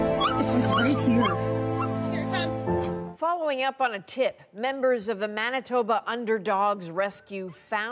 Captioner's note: yelping